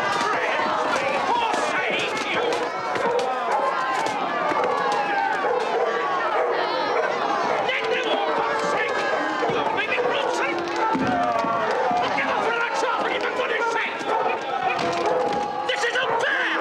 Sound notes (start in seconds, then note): 5.3 dog barks; 7.2 shouts angrily